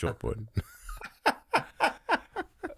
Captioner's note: both laughing